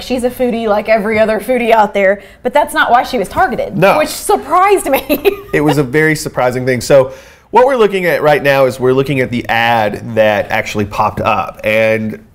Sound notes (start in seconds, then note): 4.9 laughs